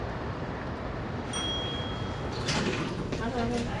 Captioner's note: elevator Bell Dings